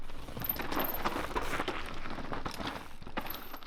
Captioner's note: chain whirring